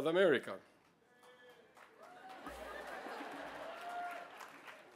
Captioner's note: cheering